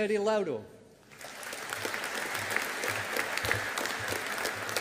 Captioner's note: audience applauding